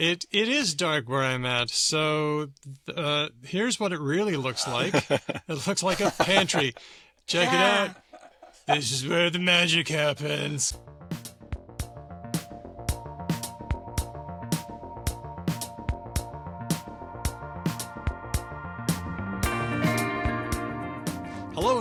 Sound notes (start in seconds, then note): 8.2 laughter